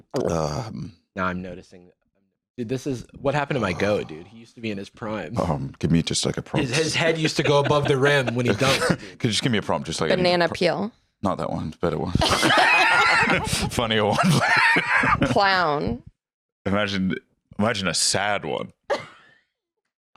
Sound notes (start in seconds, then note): 18.4 laughs